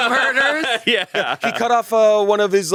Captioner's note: laughs